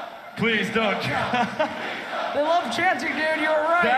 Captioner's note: laughs